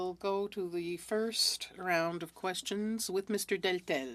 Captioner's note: speaking French